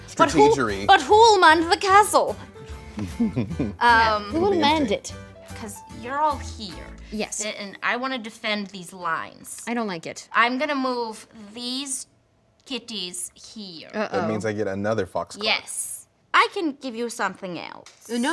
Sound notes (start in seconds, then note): 3.0 laughing